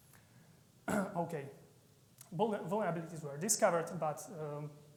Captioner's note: clears throat